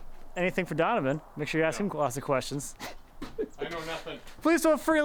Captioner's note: laughs